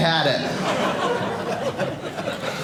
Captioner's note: audience laughing